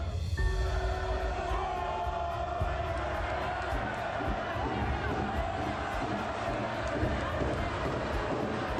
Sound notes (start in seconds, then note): 0.5 crowd cheering